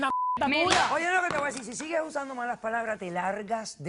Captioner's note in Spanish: Bip